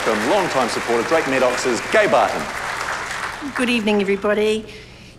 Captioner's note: applause